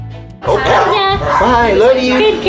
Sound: dogs barking

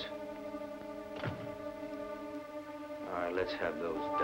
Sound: door shutting

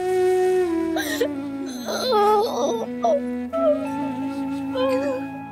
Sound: crying

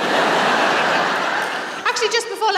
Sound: laughter

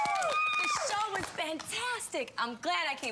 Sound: audience cheering

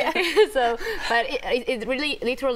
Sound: laughter

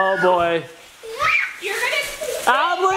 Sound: yelps

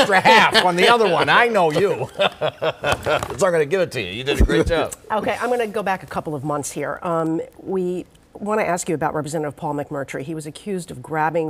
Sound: laughter

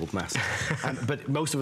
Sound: laughter

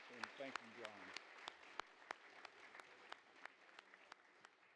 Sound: audience applauds

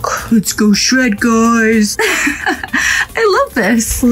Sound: laughs

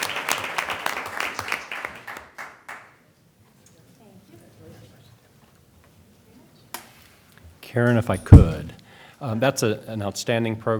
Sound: applause

